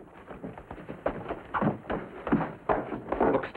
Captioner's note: footsteps scrambling